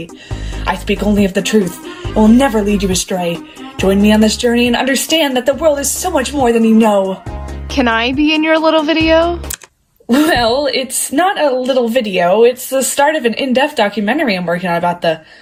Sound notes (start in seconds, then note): 9.5 click